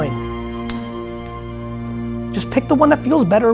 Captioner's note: coin flipping